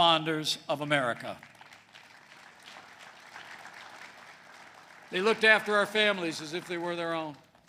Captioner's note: applause